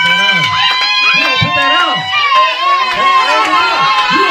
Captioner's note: audience cheering